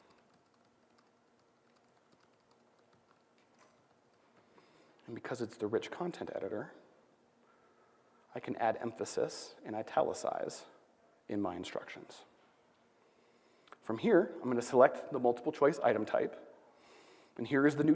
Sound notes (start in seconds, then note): none